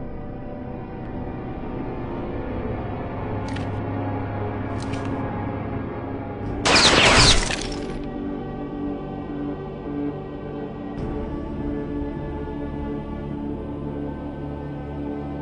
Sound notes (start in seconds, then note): 0.0 light suspenseful music; 6.6 gun firing